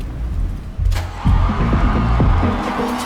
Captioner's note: doors opening; crowd cheering